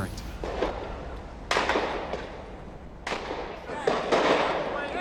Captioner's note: gunshots